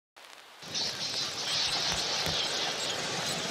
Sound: bats chirping, wind

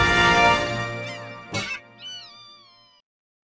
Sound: bird noises

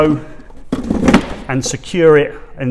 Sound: unit snapping into place

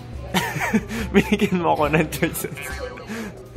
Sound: laughs

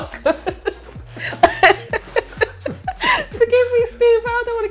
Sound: laughing

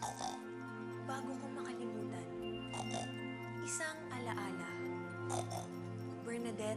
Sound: snorts; snorts

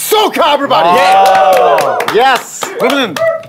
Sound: sound of cheering

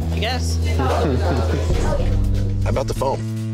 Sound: chuckles

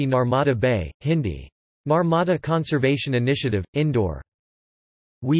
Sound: Hindi

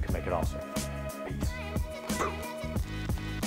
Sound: blows; upbeat music

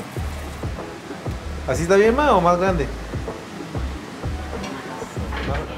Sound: spanish conversation

